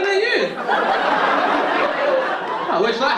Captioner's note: audience laughing